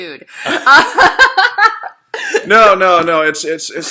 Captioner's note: laughing